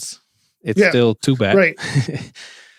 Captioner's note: chuckles